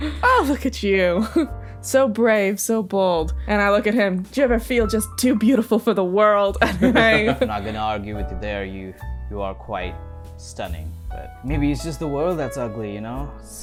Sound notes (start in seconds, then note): 6.6 laughs